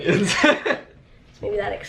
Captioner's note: laughing